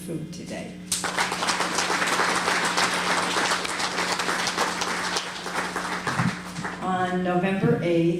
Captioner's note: applause